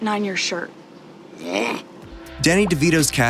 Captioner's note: groans